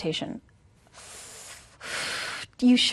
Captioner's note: sharp inhale and exhale through teeth